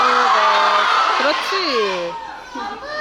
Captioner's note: none